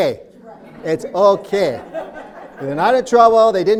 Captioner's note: laughs